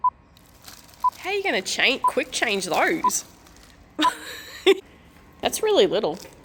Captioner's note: giggles